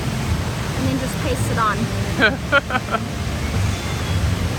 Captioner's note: laughs